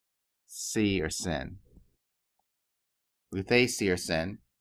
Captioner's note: speaking greek